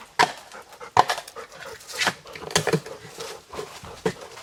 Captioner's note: digging; Cali panting